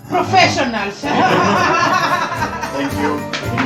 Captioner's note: laughter